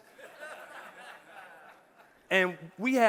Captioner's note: audience laughing